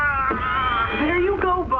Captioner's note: screaming